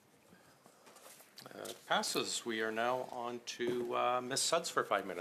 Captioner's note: speaking French